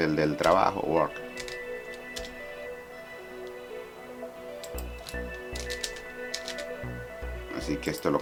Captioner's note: typing